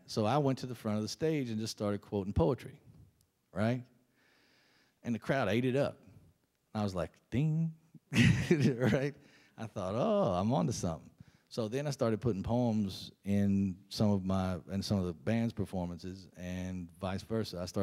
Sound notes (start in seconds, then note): 8.2 laughs